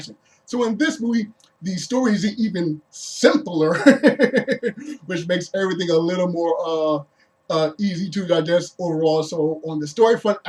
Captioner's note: laughs